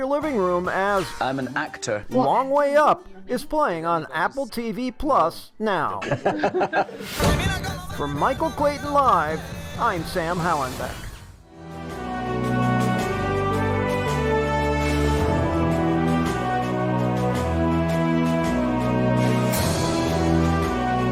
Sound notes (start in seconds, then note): 4.4 laughing; 10.9 uplifting music